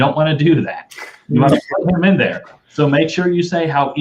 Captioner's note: laughter